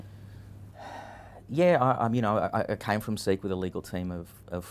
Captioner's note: sighs